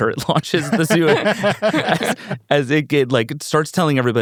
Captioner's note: everyone laughing